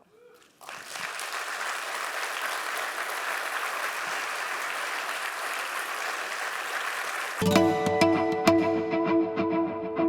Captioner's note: applause